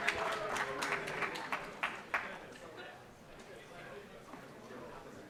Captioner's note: cheering